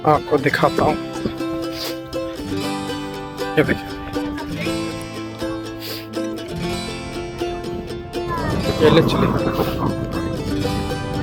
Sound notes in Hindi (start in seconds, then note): 3.3 नाक से की जाने वाली आवाज़